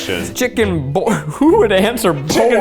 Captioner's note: chuckles